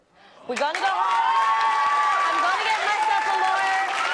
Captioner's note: audience celebrates